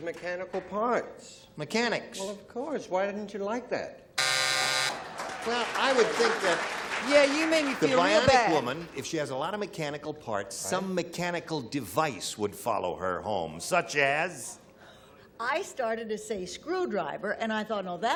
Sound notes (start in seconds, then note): 4.1 buzzer; 4.8 applause